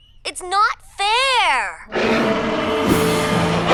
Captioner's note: roaring; snarling